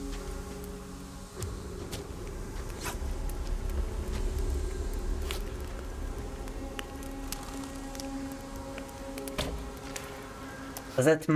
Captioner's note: footsteps